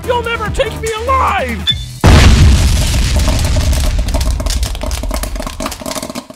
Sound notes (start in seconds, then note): 2.0 explosion; 2.7 popcorn popping